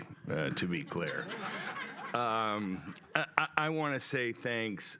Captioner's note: laughter